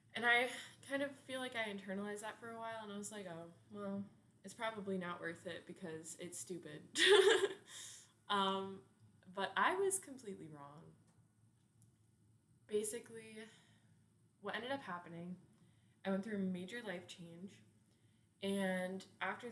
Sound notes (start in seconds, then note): 7.0 laughs